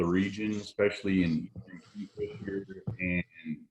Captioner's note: audio is choppy